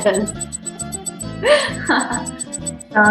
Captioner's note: laughs